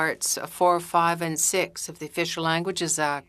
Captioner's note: speaking French